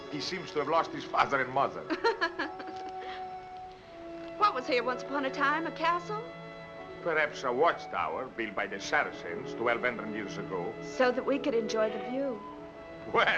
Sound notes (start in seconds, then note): 1.9 laughs